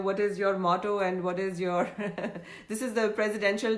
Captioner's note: laughs